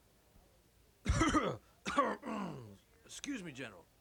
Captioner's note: someone coughs offscreen